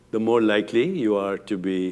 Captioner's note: none